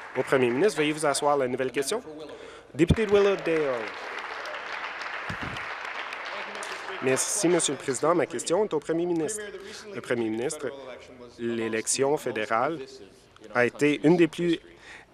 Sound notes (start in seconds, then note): 8.0 applause